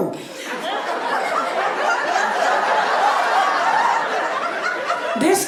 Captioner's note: audience laughing